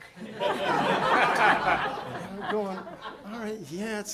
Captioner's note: audience laughing